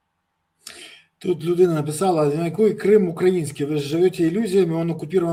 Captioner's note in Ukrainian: прочищення горла